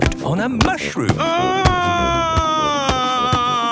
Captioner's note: shouting